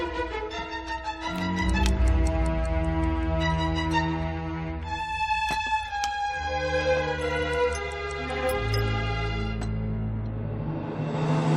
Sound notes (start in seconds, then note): 1.3 clock ticking